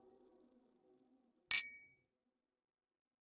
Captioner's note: clink